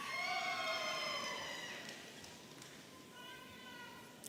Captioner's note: audience cheering